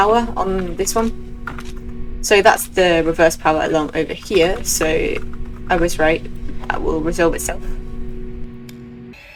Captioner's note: flashback to every alarm going off at once